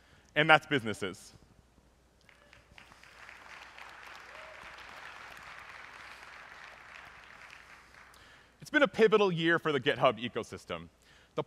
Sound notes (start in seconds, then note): 2.2 applause